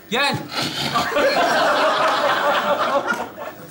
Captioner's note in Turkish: Kahkaha sesleri